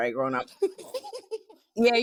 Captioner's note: laughter